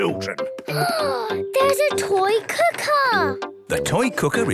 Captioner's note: gasps